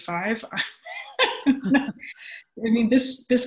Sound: laughs

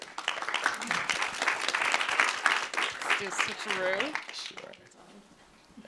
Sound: applause

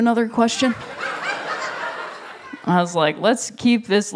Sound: laughter

